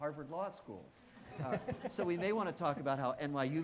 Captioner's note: audience laughing